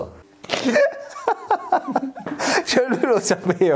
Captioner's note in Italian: ridono entrambi